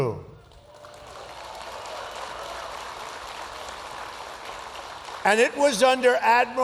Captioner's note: applause